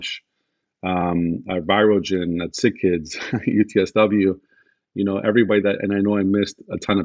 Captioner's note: laughs